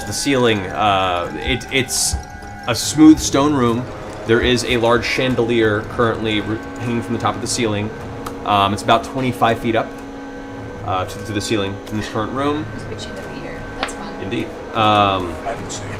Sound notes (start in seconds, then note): 12.9 gasps